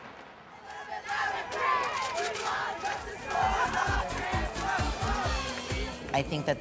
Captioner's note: chanting